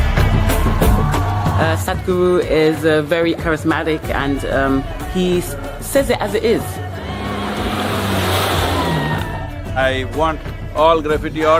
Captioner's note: laughs